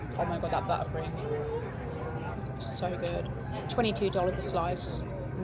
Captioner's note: none